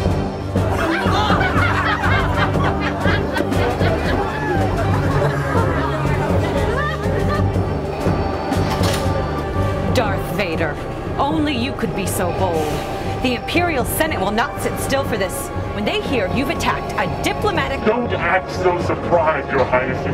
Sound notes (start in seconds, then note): 0.6 passengers laughing